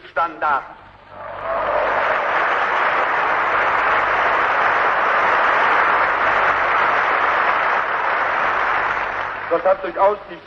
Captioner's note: applause